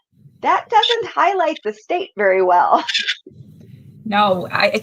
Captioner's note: laughs